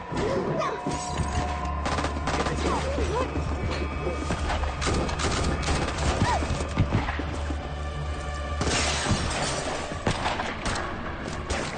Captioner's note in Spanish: Disparos